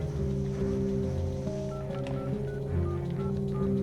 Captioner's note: dialing telephone